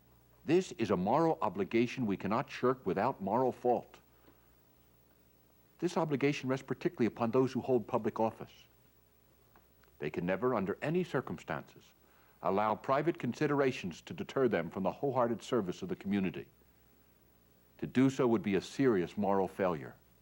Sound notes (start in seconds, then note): none